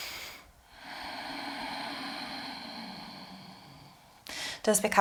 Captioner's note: inhales and exhales